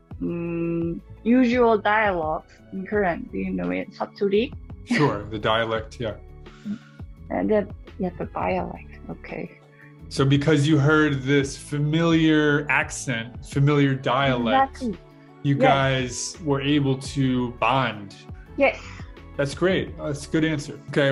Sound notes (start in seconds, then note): 3.8 dialect